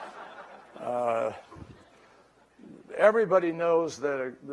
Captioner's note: laughter